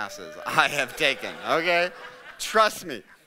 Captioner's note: audience laughing